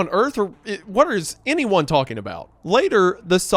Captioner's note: stammers